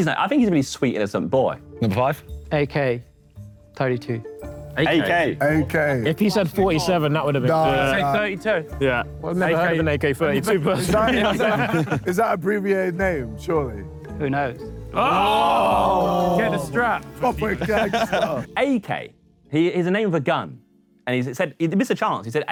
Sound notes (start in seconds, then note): 10.4 Sidemen laugh; 14.9 Sidemen groan